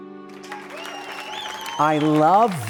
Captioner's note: gentle music; audience cheering